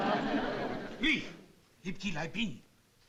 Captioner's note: non-english speech